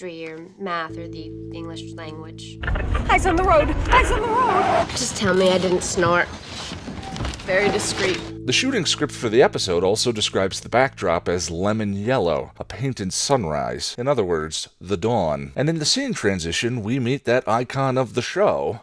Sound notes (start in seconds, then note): 2.6 radio fiddling